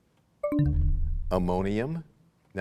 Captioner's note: bell chimes, time expires